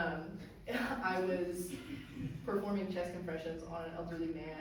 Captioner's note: chuckles